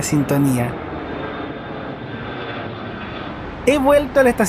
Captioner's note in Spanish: sonido de un avión despegando